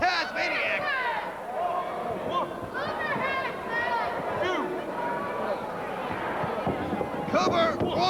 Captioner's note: crowd cheering